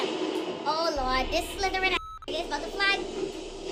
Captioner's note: beep